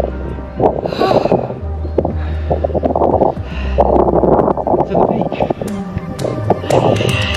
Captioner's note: sighs